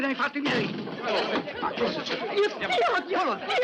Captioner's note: clamouring